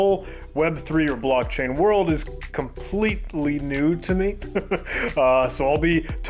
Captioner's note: laughs